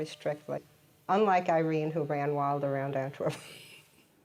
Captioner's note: laughs